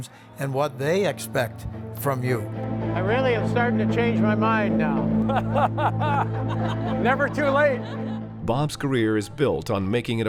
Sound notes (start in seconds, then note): 5.2 laughter